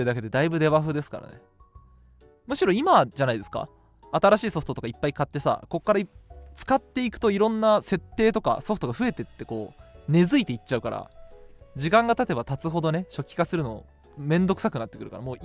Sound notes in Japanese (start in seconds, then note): none